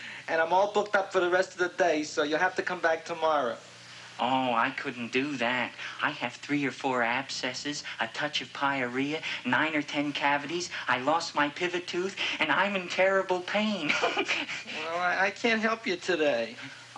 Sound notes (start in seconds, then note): 13.7 giggles